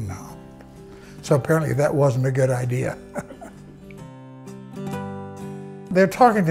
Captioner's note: laughs